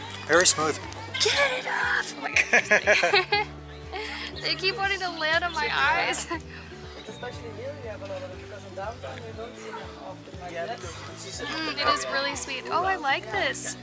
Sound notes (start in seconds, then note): 2.2 laughter